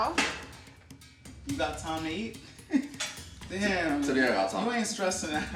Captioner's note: chuckles